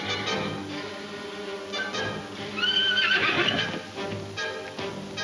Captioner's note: horse whinnying